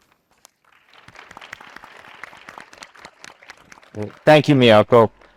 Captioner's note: attendees applauding